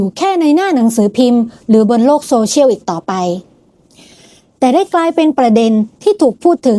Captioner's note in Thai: เสียงสูดหายใจ